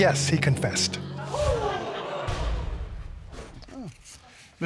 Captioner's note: audience gasping